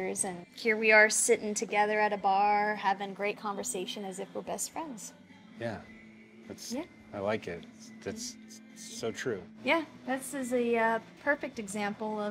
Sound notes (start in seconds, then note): none